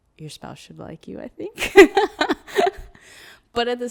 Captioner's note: laughs